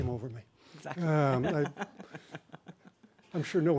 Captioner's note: laughs